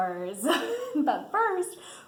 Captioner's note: laughs